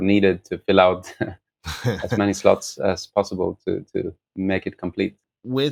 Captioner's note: laughter